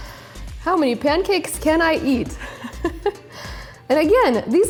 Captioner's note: laughs